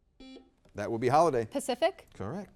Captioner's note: buzzer beeps